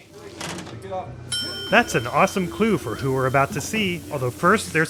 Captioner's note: ding